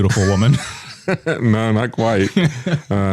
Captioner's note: laughs